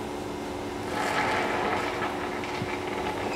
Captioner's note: hissing